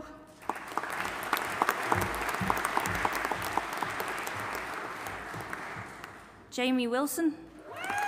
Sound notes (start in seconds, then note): 0.4 audience applauding